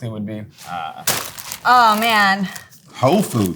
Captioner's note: plastic crinkling; fries pack thudding